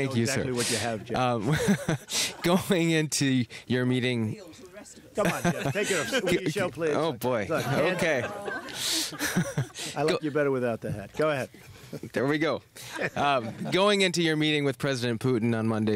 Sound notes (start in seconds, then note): 2.8 laughs; 5.2 laughter; 10.2 laughs; 12.8 laughter